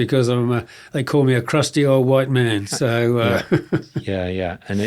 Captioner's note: chuckles